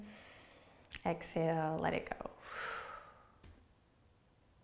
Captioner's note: inhales deeply; exhales quickly